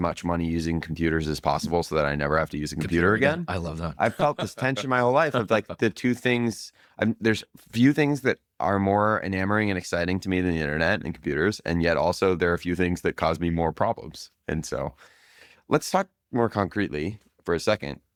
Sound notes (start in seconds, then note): 4.0 laughs